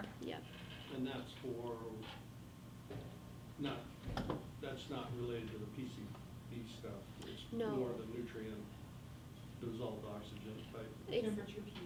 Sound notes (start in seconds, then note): 9.8 faintly speaking